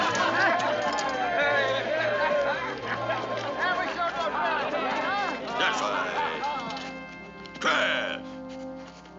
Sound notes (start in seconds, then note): 3.6 all murmuring